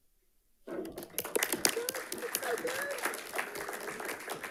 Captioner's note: audience clapping